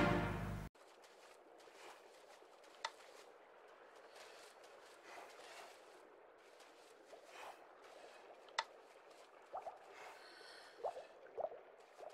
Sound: sound of walking

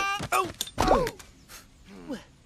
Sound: thud; blows

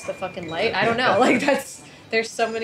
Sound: laughs

